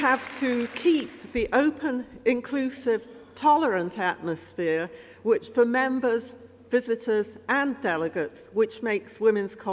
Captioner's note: applause